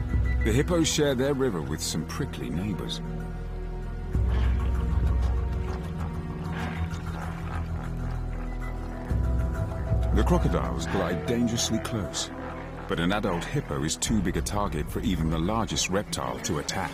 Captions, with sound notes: The crocodiles glide dangerously close, but an adult hippo is too big a target for even the largest reptile to attack. (hippo snorting) (intense music)